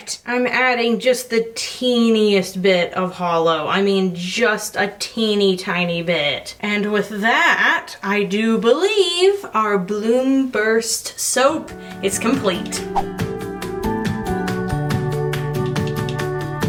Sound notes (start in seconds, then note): 12.8 loud swipe; 13.7 light music